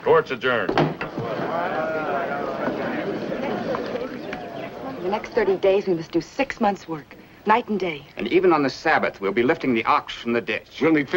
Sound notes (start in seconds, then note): 1.0 crowd chatting